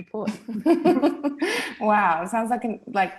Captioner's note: laughing